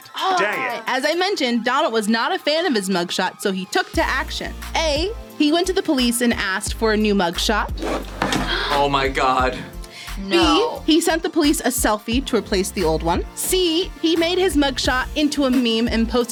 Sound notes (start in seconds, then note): 7.8 gasps; 10.3 laughs